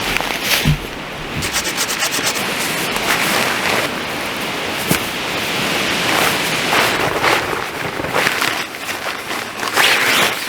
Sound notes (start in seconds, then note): 1.2 sawing